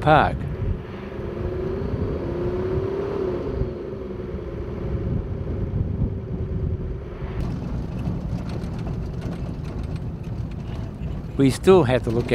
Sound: vehicle sounds

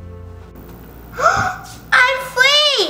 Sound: gasps

